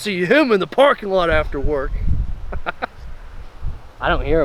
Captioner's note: laughs